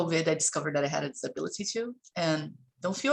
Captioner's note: none